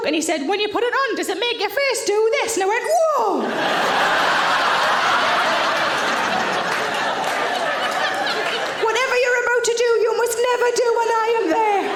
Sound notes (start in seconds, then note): 3.4 audience laughing; 11.7 audience laughing